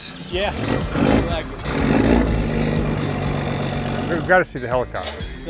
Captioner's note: engine rumbles